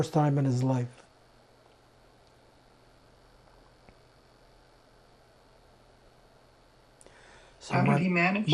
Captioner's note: pauses 6 seconds